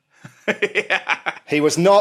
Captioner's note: laughs